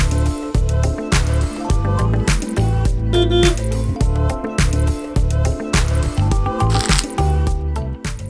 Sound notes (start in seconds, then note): 3.1 car horn honking